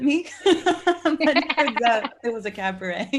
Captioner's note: group laughing